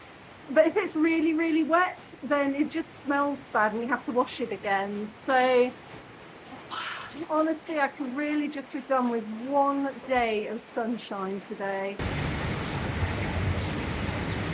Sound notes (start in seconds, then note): 6.6 sigh; 11.8 heavy rain